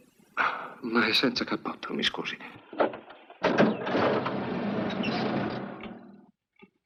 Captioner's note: engine starts